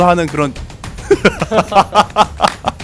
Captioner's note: laughs